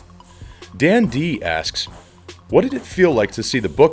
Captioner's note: voiceover